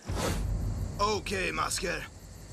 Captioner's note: none